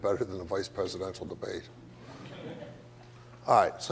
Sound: audience laughs

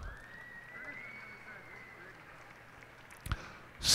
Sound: cheers and applause

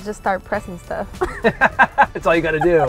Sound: laughing

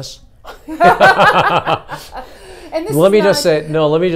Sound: laugh

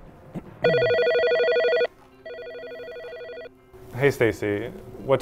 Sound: phone ringing

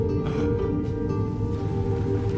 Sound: gasp

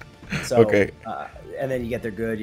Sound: laugh

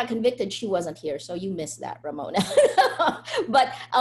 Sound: laughs

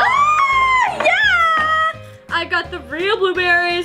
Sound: screams

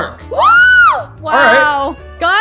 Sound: gasps

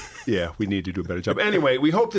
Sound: laughter

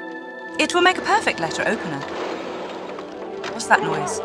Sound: car noises

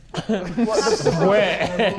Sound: Sidemen laughing

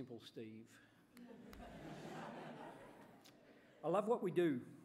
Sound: laughter

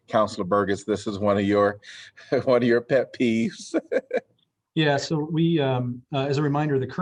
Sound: laughter

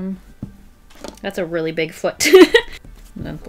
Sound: laughs

